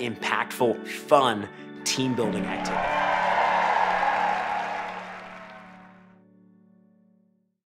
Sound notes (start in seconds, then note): 2.2 audience applauding